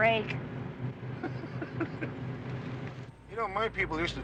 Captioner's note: Jim laughing